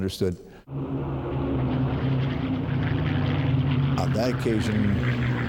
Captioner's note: plane engines rumbling